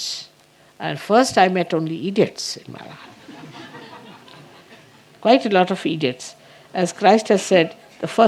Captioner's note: laughter